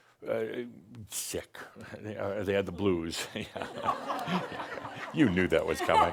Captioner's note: laughter